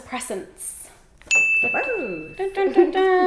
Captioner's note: bell dings